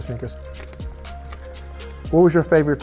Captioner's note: paper rustling